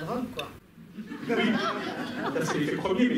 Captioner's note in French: rires